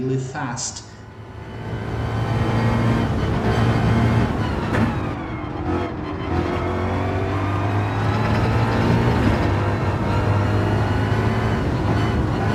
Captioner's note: engines revving, cars noises